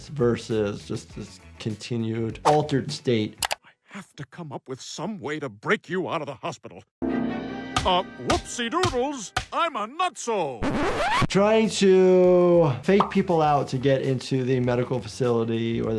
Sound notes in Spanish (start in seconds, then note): 7.0 música dramática; 10.6 cinta chillando